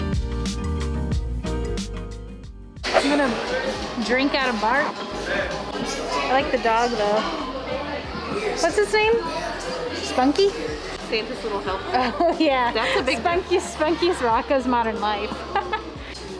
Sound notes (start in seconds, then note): 11.8 laughs; 15.4 laughs